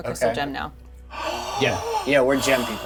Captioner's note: Xavier gasping